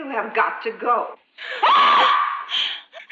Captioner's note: screams